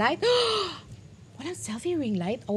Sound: gasps

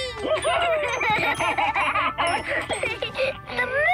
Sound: laughing

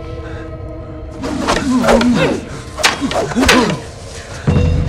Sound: fighting noises

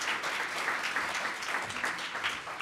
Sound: applause

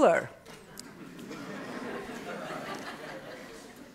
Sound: laughter

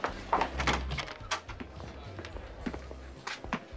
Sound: door clicking

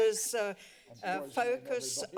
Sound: background conversations

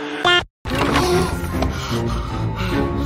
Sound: gasp

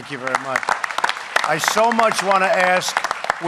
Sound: applause

